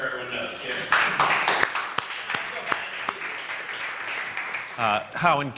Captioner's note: applause